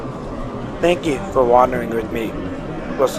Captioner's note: voiceover